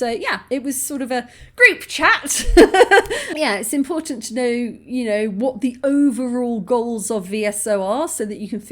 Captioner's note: laughing